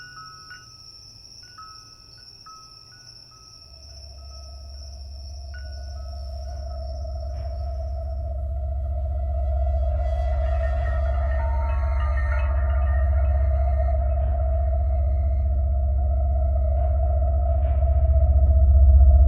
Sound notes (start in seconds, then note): 2.5 bell chiming continues; 3.9 eerie dramatic music; 13.0 eerie dramatic music continues